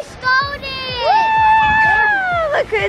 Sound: cheering

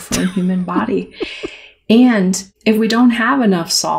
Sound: laughter

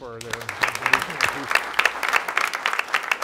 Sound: clapping

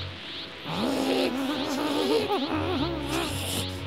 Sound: nervous growling

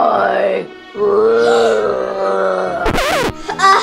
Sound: Chef Frankie growling; record scratching

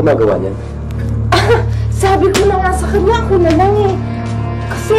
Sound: soft chuckle

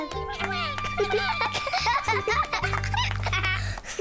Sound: all cheering

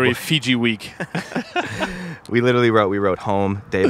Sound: both laughing

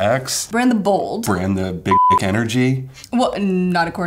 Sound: beep

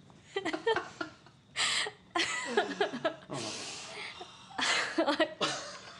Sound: laughter

